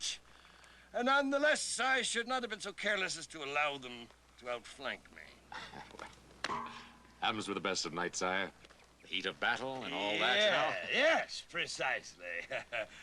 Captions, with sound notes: NONETHELESS, I SHOULD NOT HAVE BEEN SO CARELESS AS TO ALLOW THEM TO OUTFLANK ME. WELL... ( clang ) HAPPENS WITH THE BEST OF KNIGHTS, SIRE. THE HEAT OF BATTLE AND ALL THAT. YES, PRECISELY! ( chuckles )